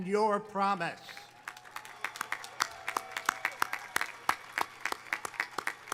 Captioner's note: audience applauding